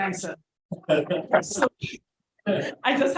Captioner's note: attendee laughing